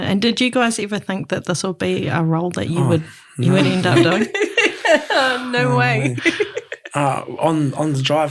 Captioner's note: laughs